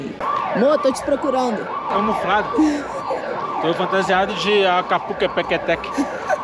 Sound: siren

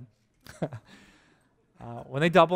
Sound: pastor: Laughter

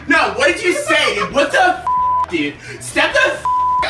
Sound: beep

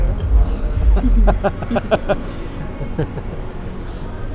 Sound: both laughing

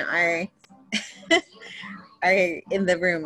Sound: chuckling

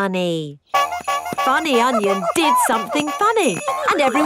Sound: shoes honking

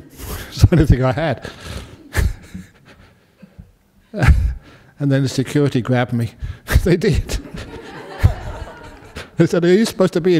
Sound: laughter

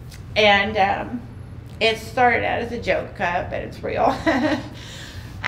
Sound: laughing

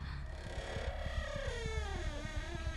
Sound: door creaking

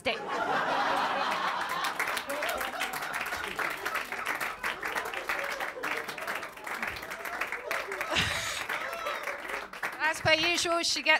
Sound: laughter & applause

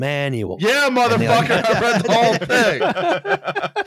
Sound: shouting; all laughing

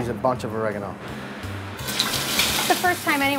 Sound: chicken sizzles

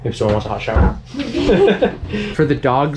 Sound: laughs

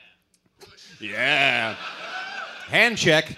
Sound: mocking

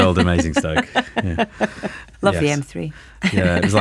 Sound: laughs

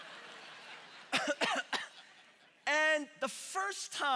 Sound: congregation laughing; coughing

